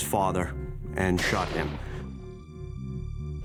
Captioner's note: gun shot